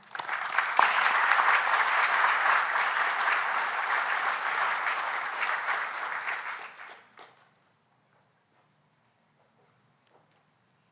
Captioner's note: applause